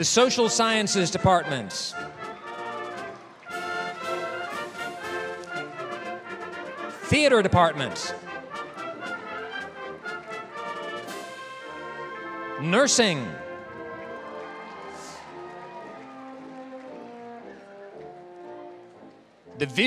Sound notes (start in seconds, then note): 2.0 applause; 11.0 applause; 15.2 applause, cheering